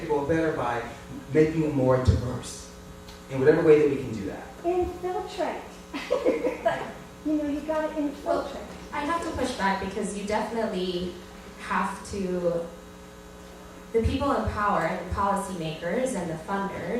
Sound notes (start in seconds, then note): 5.9 laughs